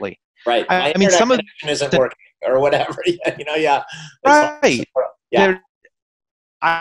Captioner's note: laughing